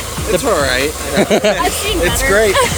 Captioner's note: laughs